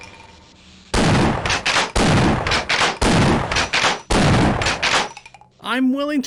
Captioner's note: pleasant shotgun sounds; obnoxious shotgun sounds